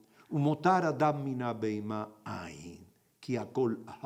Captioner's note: in Hebrew